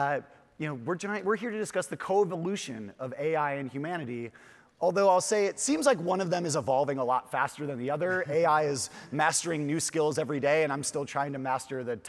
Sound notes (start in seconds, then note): 8.5 chuckles